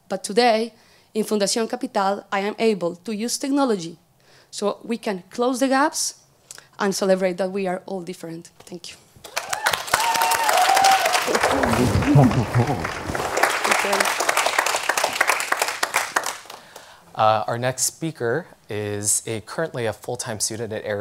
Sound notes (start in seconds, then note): 9.2 applause